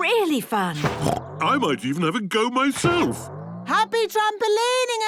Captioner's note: snorts